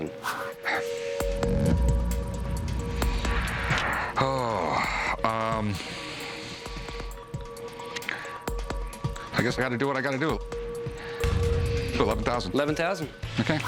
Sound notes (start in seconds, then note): 5.7 sigh